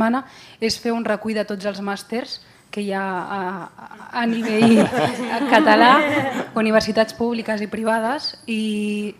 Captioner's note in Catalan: riures